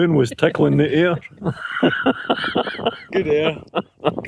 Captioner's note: laughter